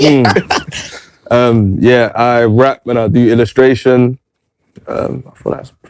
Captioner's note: laughter